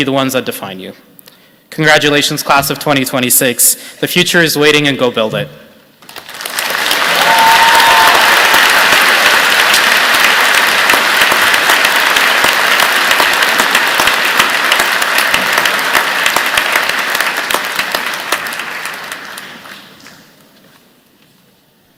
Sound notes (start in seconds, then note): 6.1 cheers and Applause